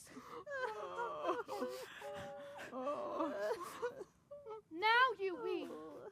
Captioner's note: sobbing